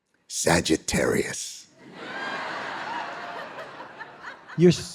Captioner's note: audience laughing